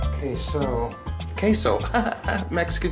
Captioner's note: laugh